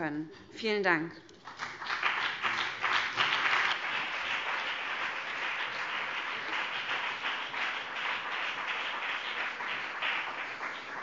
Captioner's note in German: Beifall BÜNDNIS 90/DIE GRÜNEN und CDU